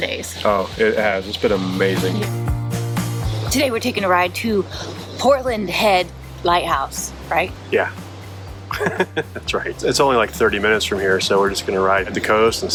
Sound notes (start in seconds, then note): 8.7 laughing